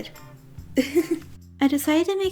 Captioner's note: giggles